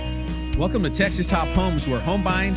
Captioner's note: voiceover